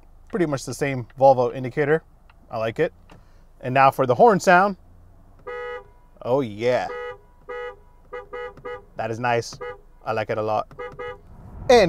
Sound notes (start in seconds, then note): 0.0 car indicator ticking; 6.5 car horn honking